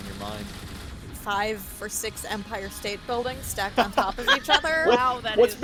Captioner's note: laugh